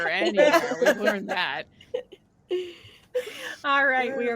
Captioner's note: group laughing